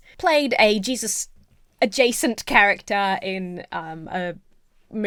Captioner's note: none